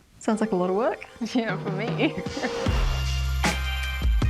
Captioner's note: laughs; upbeat music